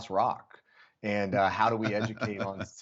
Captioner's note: laughter